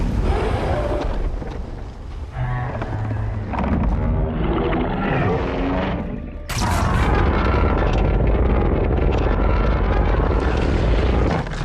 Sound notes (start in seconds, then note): 4.3 Godzilla Charges Atomic Breath